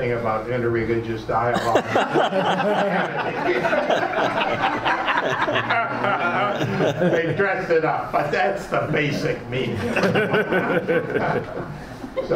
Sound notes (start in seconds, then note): 1.5 laughs; 9.6 laughs